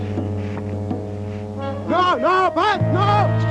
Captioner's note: shouting